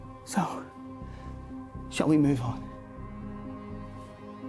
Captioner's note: none